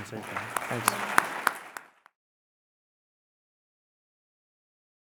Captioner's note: audience clapping